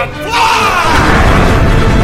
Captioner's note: sounds of heavy rockets